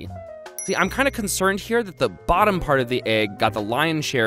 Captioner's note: dings